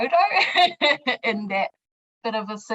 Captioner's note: speaker laughs